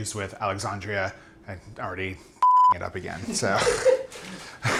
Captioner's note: beep